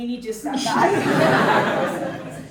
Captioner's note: audience laughing